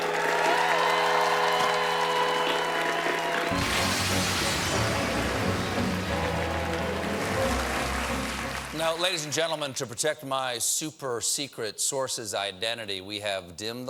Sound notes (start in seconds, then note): 1.6 cheers and applause